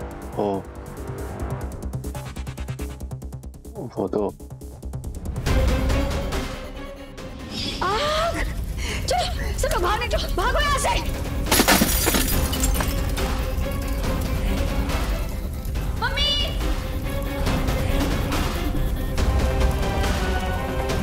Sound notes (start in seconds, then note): 11.4 breaking glass; 19.0 pensive music playing